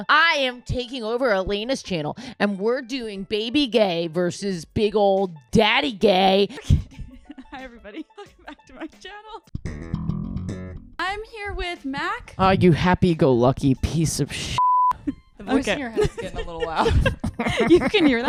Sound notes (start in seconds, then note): 10.4 funky music; 14.6 beep